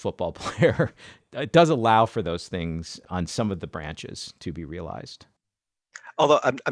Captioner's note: laughs